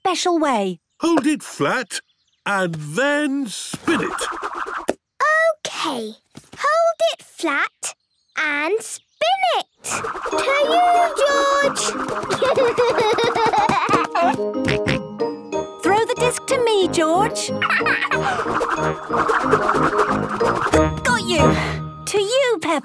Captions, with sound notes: - Hold it flat and then spin it. - Okay. Hold it flat and spin it! To you, George! (giggling) (snorting) - Throw the disc to me, George. (laughing) Got you! To you, Peppa.